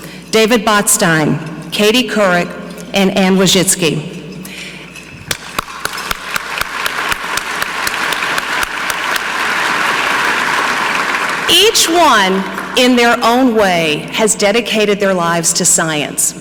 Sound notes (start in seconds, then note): 5.3 clapping; 5.3 audience clapping